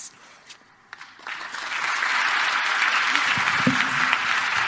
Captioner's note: audience applauds